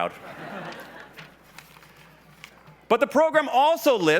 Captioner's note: laughs